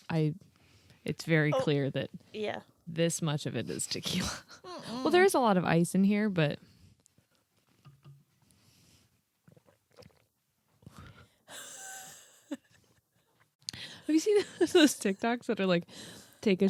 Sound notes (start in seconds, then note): 11.6 giggling